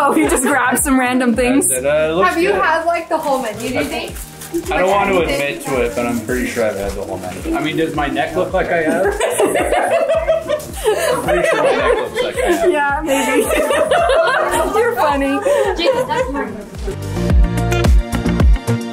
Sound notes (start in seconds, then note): 9.5 all laughing; 16.3 upbeat music